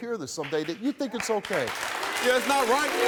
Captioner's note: cheering and booing